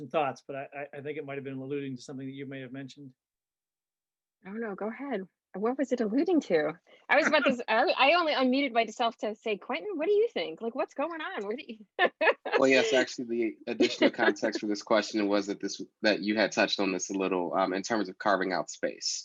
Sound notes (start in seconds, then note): 11.1 laughs